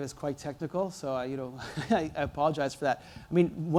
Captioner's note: laughs